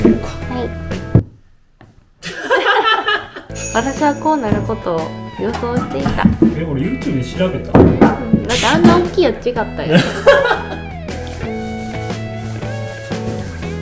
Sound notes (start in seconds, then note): 2.3 laughing hysterically